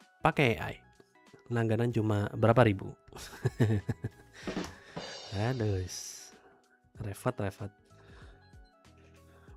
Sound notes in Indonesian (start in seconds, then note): 4.0 tertawa